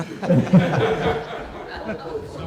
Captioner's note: laughter